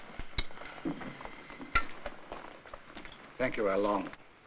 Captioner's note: dishes clattering